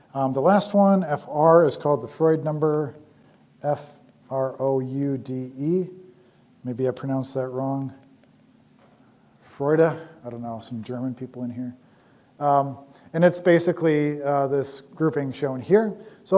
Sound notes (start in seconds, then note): 9.0 german